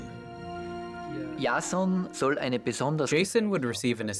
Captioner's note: man speaking German